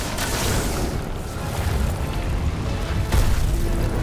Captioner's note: frightened groans